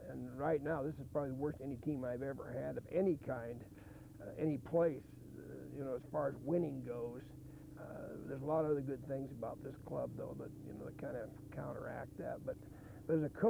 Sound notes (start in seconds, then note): none